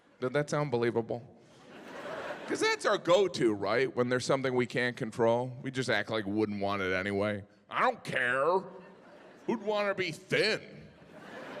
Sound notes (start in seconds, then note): 1.5 audience laughing; 10.9 audience laughing